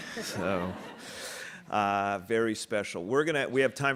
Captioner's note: audience laughing